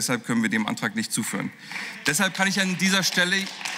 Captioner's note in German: Beifall